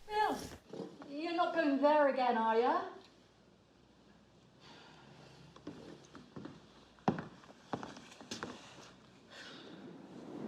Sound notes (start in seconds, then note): none